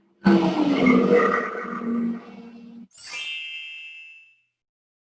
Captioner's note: elevator going down